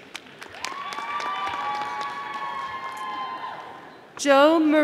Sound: audience applauding

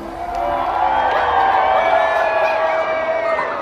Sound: crowd cheering

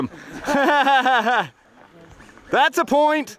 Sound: laughter

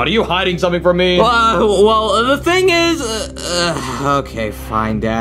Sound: groaning

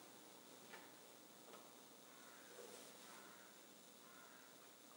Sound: cloth rustling

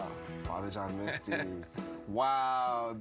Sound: laughs

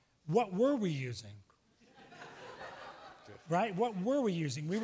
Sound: laughs

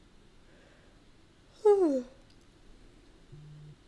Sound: yawn

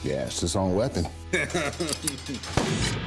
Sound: laughs

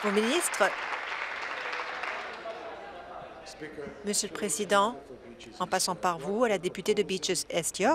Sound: applause

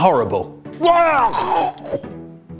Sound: vomits

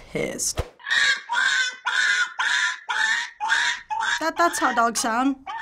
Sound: puppy screaming

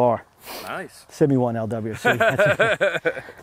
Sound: voiceover; laughter

